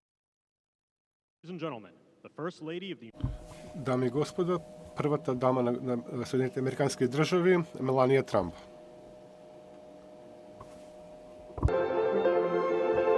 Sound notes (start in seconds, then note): 6.1 foreign language; 11.6 soft orchestral music